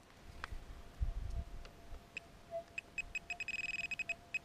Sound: metal detector sounds

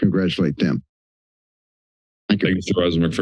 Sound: silence

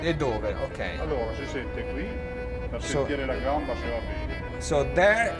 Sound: speaking Italian

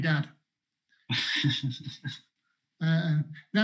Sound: laughs

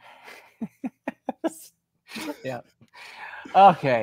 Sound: laughs

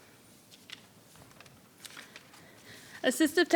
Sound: paper rustling

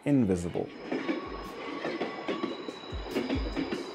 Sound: train clacking

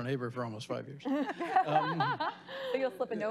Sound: laughing

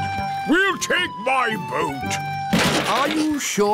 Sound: clattering

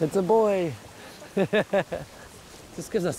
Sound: he laughs

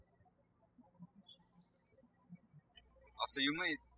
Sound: bird chirping

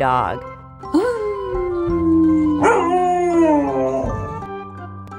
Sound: howling

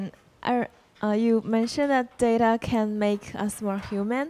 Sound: voiceover

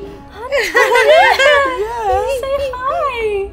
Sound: laughs

